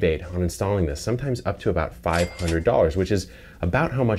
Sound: register rings

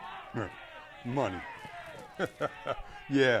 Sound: laughs

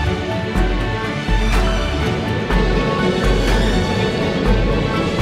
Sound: fan whirring

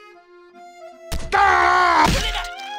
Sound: cries out in pain

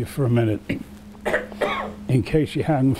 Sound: coughs

